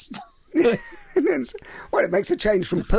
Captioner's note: laughing